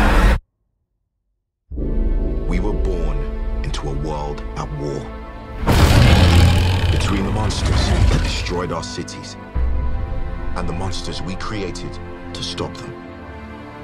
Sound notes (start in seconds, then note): 6.0 creature screeches